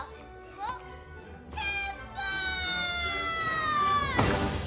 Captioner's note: shouts